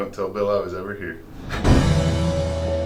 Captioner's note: swoosh out